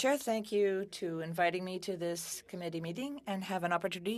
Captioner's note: speaking French